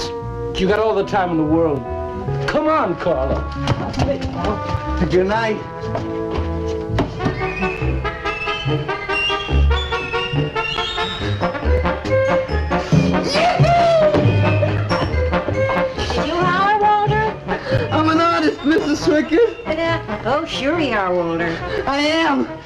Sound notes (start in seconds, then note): 13.2 Russian